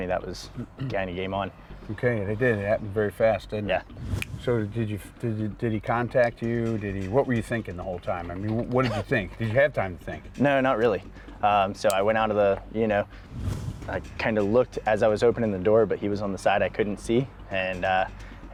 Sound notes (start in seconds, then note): 4.1 snapping